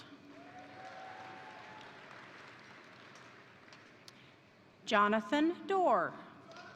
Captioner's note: crowd applauding; crowd cheering